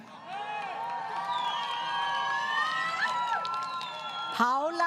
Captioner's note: crowd Cheering